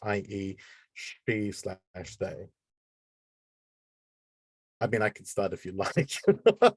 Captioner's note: laughing